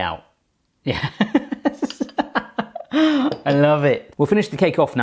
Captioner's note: laughing